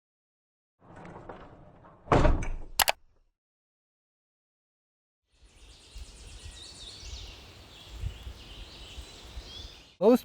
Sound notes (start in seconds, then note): 0.9 door slamming; 0.9 wheel crank turning; 2.8 computer mouse clicking; 5.4 birds and insects chirping